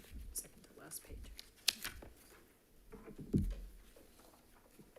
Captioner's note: paper rustling